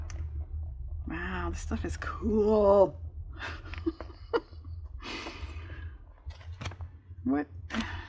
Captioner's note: laughs